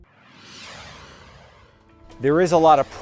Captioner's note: logo swooshes